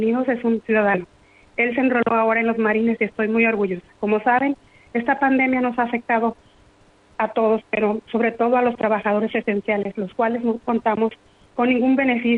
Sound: speaking in foreign language

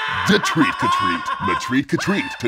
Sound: voiceover

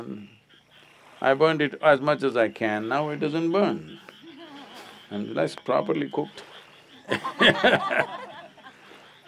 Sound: laughter

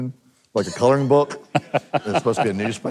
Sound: laughing

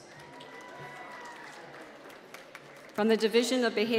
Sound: applause

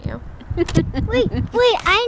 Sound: laughs

